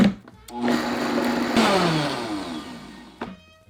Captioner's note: blender running